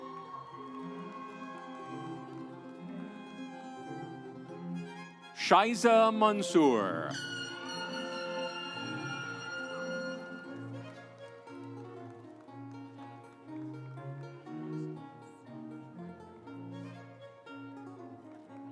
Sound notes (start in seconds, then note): 0.0 audience cheering; 0.2 instrumental music; 7.9 audience cheering; 10.7 instrumental music